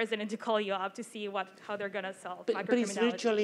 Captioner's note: overlapping chatter